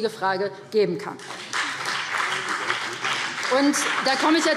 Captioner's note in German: Beifall BÜNDNIS 90/DIE GRÜNEN und CDU